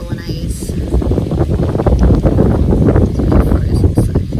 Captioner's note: wind blusters loudly in camera mic